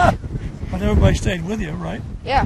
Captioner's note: laughing